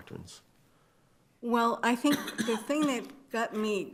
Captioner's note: attendee coughing